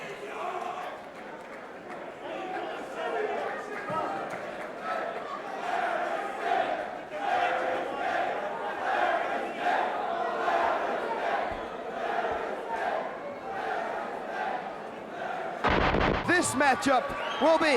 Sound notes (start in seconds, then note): 3.1 crowd chatter; 5.5 crowd cheering